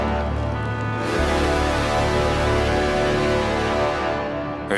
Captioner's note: horn blares